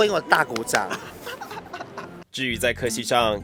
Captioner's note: laughs in knowing he's talking shit